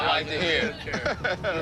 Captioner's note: laughter